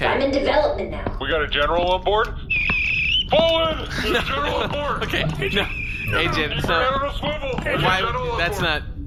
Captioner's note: loud whistle; laughing